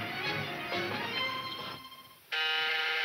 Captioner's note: intercom buzzing